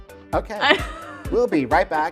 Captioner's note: laughs